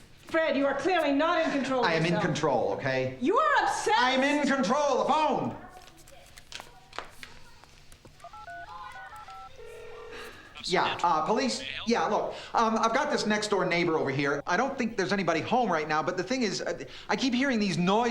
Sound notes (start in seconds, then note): 8.1 dialing; 9.5 ringing; 9.9 on phone